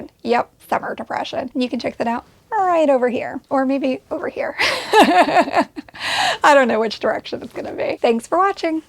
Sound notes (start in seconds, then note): 4.6 laughs